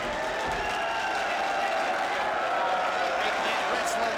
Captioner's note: crowd cheering